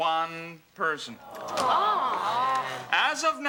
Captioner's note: students groan